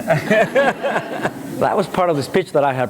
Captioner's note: laughter